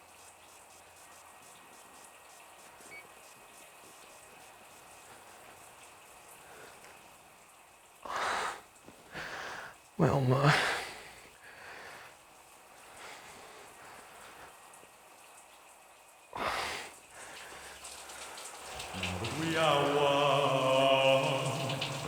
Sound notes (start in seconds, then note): 12.0 running water; 16.4 sighs; 17.8 louder running water; 19.1 singing in shower